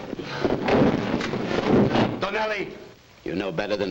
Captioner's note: table crashes